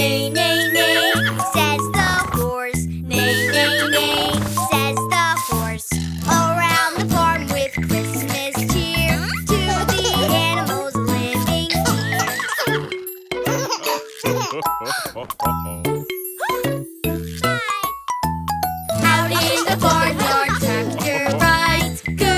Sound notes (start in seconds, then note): 13.5 both chuckling; 14.8 kid gasping